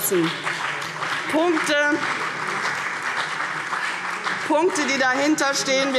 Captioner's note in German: Beifall CDU und BÜNDNIS 90/DIE GRÜNEN